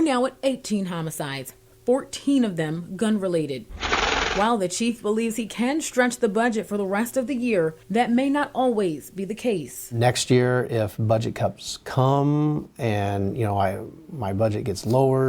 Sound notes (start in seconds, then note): 3.7 nats gun shots